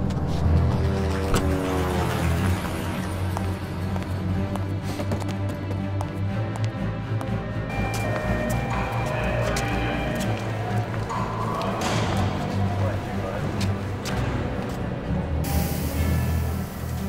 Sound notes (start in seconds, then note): 0.7 helicopter flies overhead; 7.8 people calling; 9.2 alarms blare